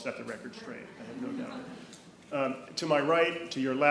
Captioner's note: attendees chuckling